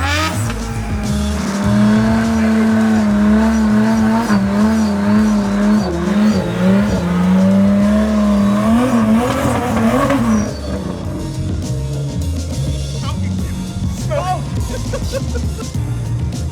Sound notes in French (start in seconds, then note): 2.7 cri indistinct; 13.9 Rires excités